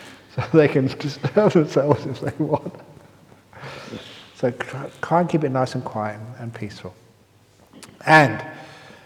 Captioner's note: laughs; laughs